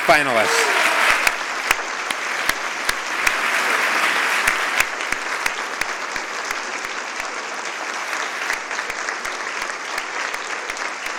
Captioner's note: applause